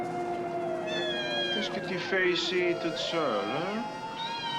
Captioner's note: speaking french